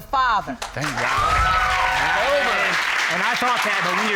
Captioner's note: all cheering